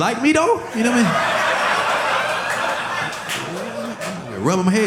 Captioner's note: audience laughing